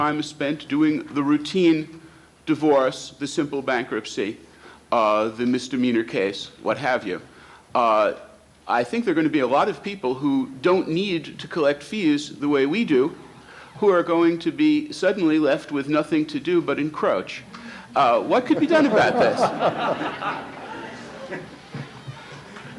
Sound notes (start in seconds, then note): 18.0 audience laughs